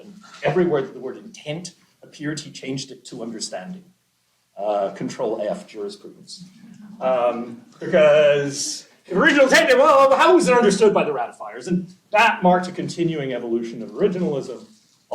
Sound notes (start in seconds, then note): 6.2 laughter